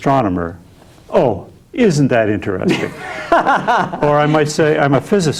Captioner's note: laughing